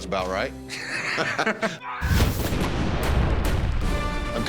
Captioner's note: laughter; rifles firing